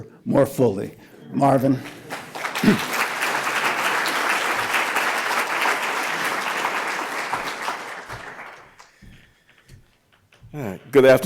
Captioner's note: applause